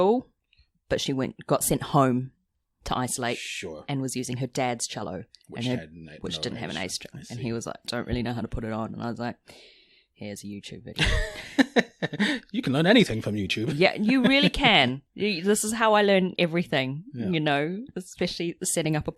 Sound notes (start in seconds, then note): 13.5 laughs